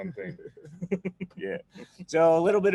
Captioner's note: laughs